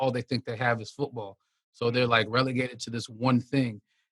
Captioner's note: none